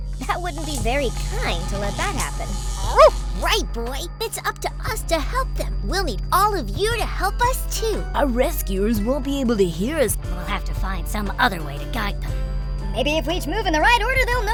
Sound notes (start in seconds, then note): 2.8 Scout barks